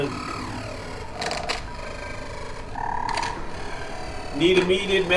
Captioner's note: machine crackling